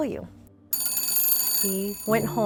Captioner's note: telephone Rings